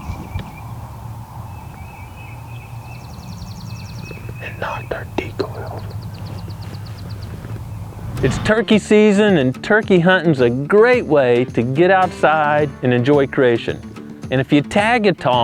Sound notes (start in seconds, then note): 4.0 whispering